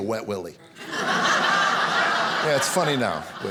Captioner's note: audience laughing